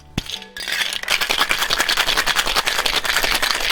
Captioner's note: ice shaking